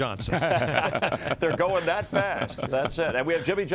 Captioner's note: laughter